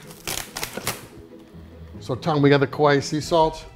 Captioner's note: chop chop chop